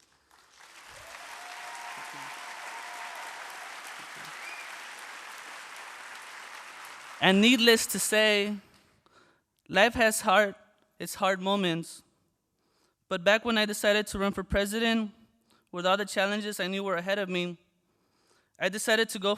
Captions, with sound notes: AT THE BEACH. [ APPLAUSE ] AND NEEDLESS TO SAY, LIFE HAS HARD, HAS HARD MOMENTS. BUT BACK WHEN I DECIDED TO RUN FOR PRESIDENT, WITH ALL THE CHALLENGES I KNEW WERE AHEAD OF ME,